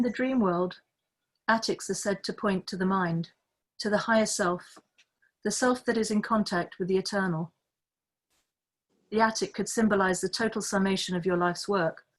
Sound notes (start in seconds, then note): none